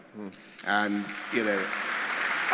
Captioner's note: applause